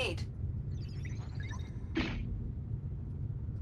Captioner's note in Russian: Настороженная трель